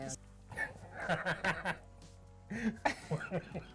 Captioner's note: laughs